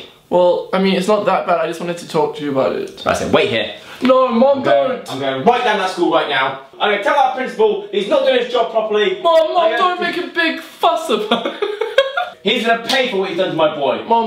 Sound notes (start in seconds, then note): 11.2 laughs